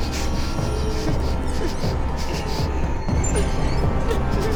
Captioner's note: Claire whimpering